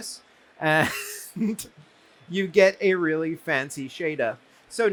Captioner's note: chuckles